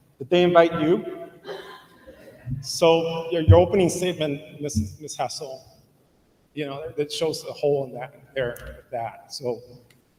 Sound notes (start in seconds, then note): none